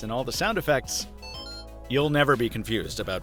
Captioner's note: rhythmic electronic beeping